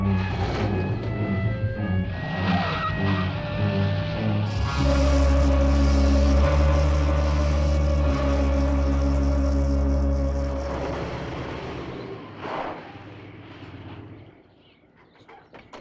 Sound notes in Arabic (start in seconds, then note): 0.1 هدير محرك السيارة; 2.6 اصوات صرير الاطارات; 4.7 صوت خشخشة الأفعى; 4.7 موسيقى تشويقية